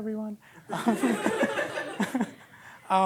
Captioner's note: laughter